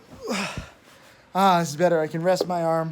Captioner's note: Tim grunts